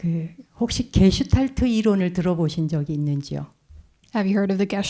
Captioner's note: speaking in Korean